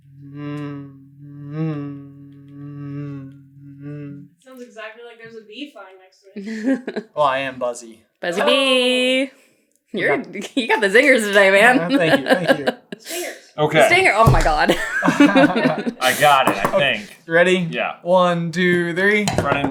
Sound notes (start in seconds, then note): 14.6 laughter